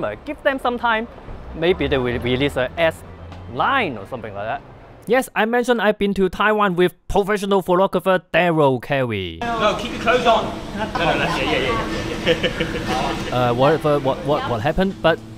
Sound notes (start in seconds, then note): 12.4 laughing